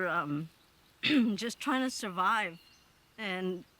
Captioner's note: clears throat